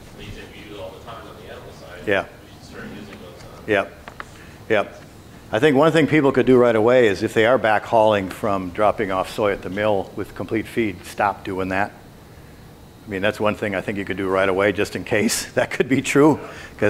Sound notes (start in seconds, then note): 4.0 faintly speaking